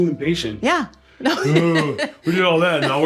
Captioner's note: laughs